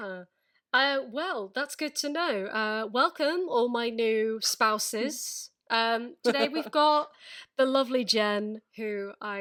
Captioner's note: laughing